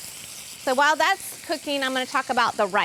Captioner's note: sizzling